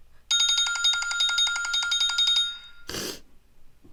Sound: cell phone ringing

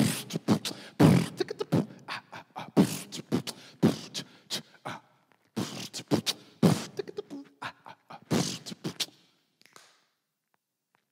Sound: vocal percussion

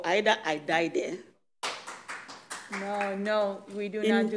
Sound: clapping

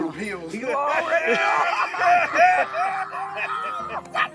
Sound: laughing

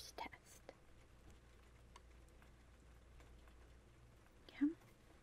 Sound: rain sounds

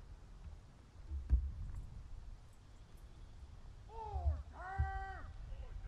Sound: soldiers shouting commands

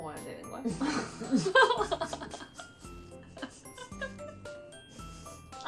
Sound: laughs ♡

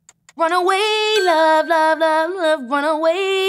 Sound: ping

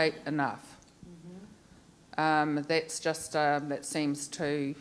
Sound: woman affirming

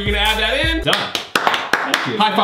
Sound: clapping

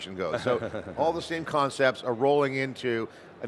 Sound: chuckles

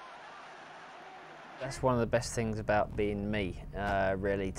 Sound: cheering

